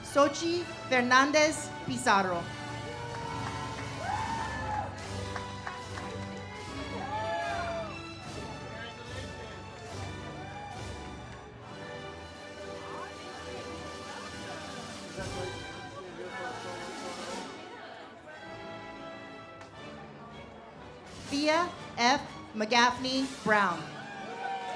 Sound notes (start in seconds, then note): 0.0 ceremonial music; 2.7 audience cheers; 8.4 ceremonial music; 23.9 audience cheers